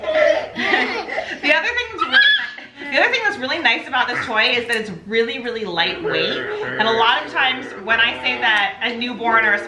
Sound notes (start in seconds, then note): 2.4 squeals